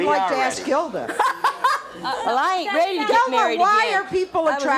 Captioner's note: laughing